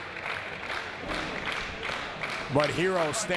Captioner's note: applause